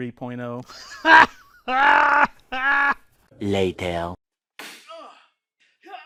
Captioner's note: laughing